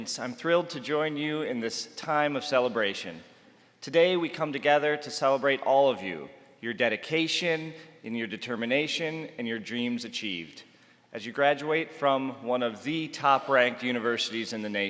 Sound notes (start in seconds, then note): none